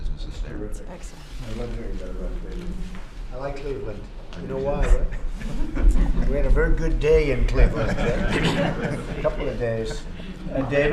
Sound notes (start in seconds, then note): 4.8 laughter